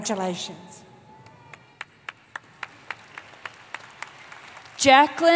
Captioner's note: applause